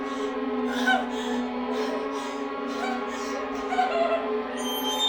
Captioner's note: Casey whimpering